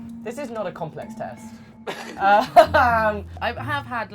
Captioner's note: laughing